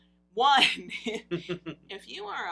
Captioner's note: laughs